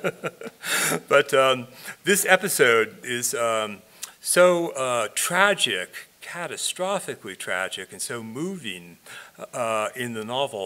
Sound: laughing

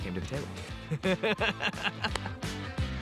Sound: laughs

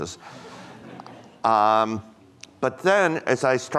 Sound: audience laughing

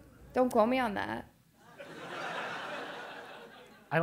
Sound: laugh

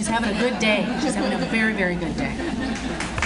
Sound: audience Applauds

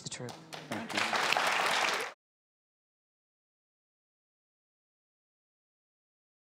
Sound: audience claps

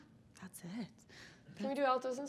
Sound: speaking faintly

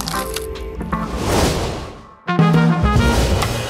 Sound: transition whooshing; upbeat music

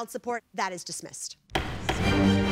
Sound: gavel raps

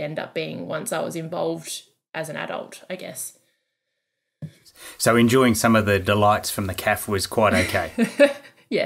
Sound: laughing

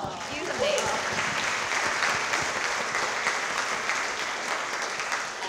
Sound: audience clapping

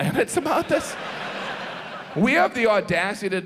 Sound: audience laughs

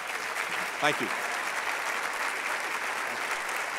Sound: applause

